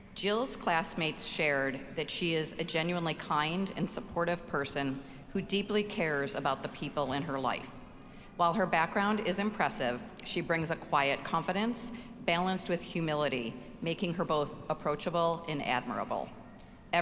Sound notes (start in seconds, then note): none